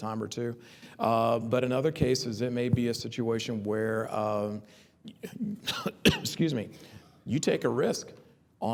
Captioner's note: cough